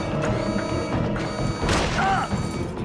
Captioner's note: gunshot